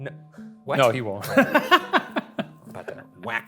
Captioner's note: laughs